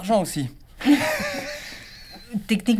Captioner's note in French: Rires